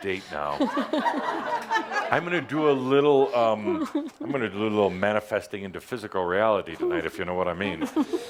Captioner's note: laughter